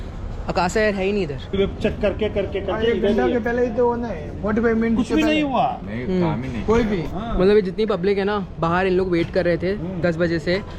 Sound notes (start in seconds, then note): 1.9 people chatter